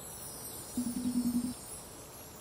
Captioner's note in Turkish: Telefon çalar